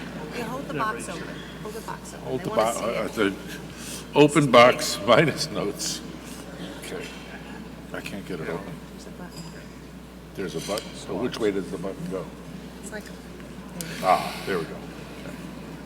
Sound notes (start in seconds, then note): 9.0 mumbling